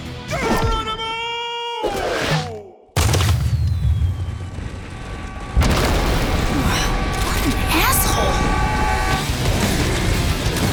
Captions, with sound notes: Geronimo! [distant screaming] What an asshole. [rock music]